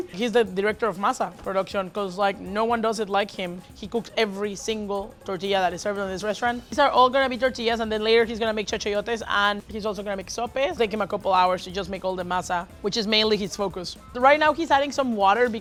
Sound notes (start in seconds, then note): 8.4 speaks Spanish